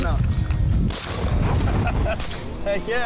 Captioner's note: gun fires